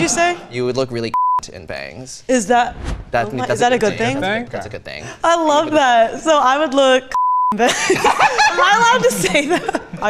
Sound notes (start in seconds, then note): 7.6 laughs loudly; 7.6 laughs